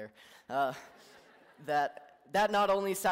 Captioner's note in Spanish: Risas